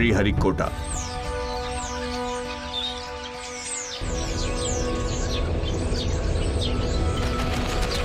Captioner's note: birds chirping